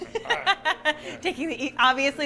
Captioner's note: laughter